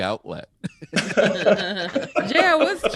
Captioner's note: all laughing